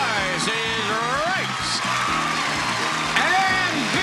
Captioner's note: audience applauding; lively music